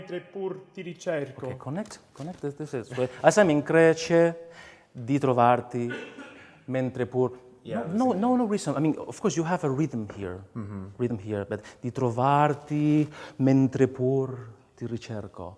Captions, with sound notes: Okay, connect [SPEAKS IN FOREIGN LANGUAGE]. No reason, of course you have a rhythm here. [SPEAKS IN FOREIGN LANGUAGE].